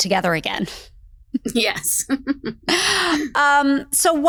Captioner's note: laughs